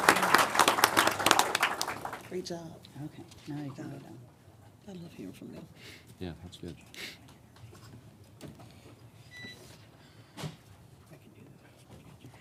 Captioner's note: applause